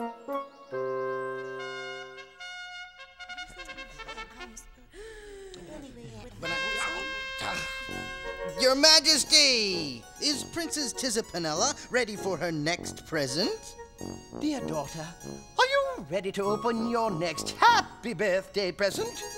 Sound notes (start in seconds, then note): 4.5 continues blowing horn; 4.9 inhales